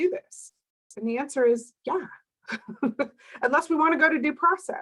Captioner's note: laughs